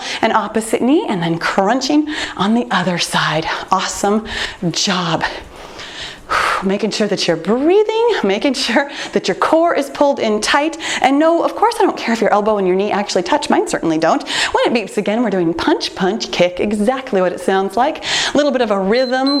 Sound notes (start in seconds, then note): 5.7 exhales loudly; 18.9 timer beeps